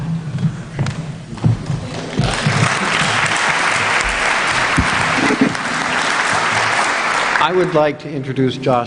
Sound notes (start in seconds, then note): 2.0 applause